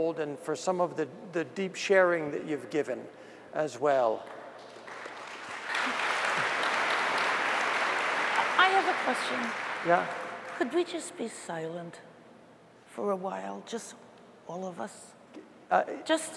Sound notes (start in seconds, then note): 11.1 applause